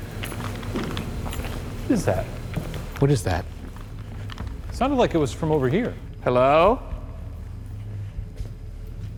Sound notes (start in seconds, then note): 0.8 ship bangs